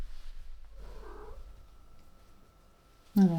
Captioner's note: other cat chirps off screen